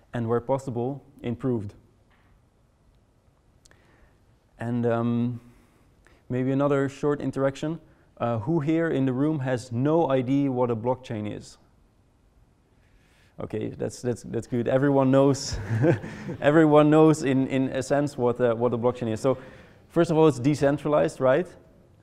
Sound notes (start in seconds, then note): 15.5 audience laughing